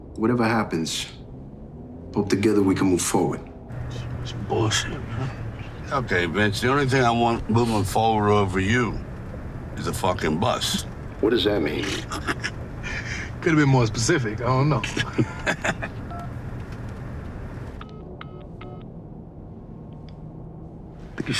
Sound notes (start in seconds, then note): 11.2 laughing; 16.0 phone beeping; 17.8 dial tone beeping